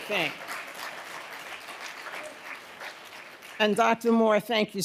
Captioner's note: audience applauding